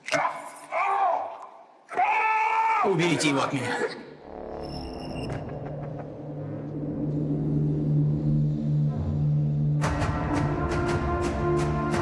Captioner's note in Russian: крик